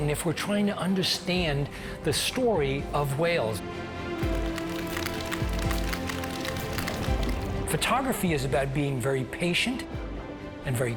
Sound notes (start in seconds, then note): 4.1 upbeat inspirational music; 4.2 whales clicking